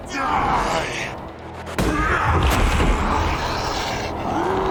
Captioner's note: roar